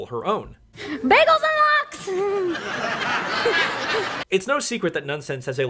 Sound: audience laughing

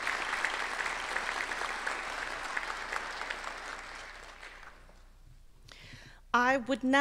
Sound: applause

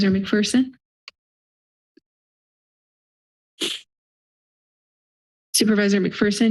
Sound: silence

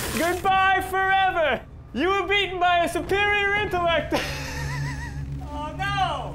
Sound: laughs

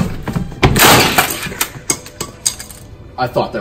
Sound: laptop smashing

